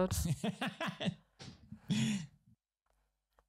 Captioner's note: laughs